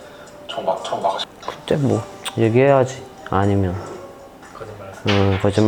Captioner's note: tsk